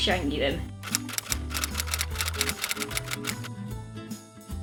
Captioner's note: typewriter sound effect